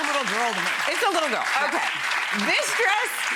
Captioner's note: audience cheers